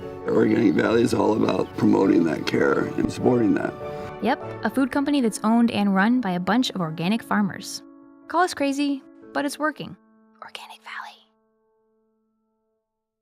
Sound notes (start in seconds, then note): 10.1 whispering